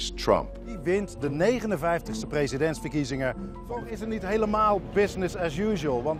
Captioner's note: speaking in foreign language